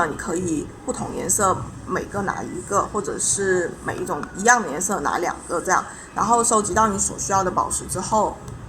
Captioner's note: explaining in Chinese